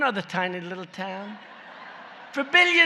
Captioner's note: laughter